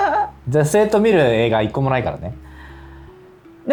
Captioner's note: laughs